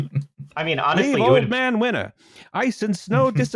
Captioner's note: laughter; old-Timey Announcer voice